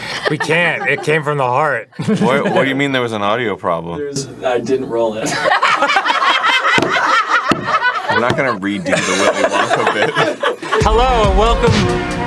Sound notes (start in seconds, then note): 5.2 all laughing